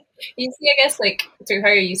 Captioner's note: laughing